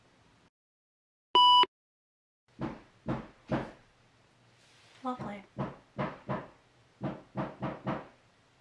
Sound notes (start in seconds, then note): 1.4 computer beep; 2.6 loud hammering; 5.9 hammering continues